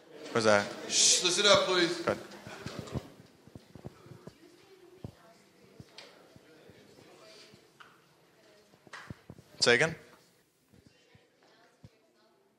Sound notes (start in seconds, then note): 6.8 speaking faintly